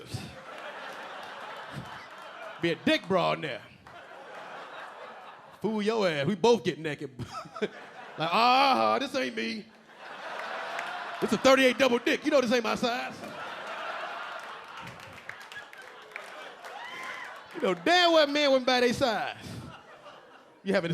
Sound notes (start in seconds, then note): 0.0 audience laughing; 7.3 audience laughing; 8.0 LilRel laughing; 10.0 audience laughing; 13.4 audience laughing; 19.5 a few audience members laughing